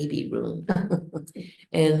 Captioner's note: laughs